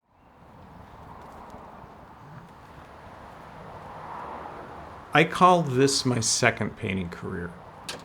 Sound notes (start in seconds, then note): 0.0 car traffic humming